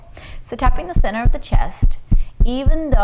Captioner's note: taps